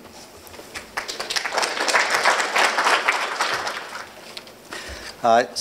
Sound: audience applauding

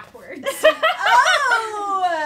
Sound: laughter

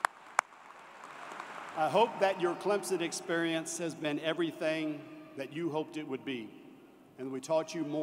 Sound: applause

